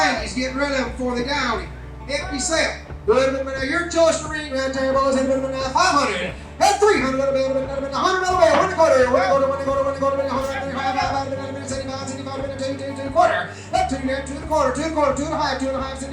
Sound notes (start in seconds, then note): 3.5 auctioneer mumbling out prices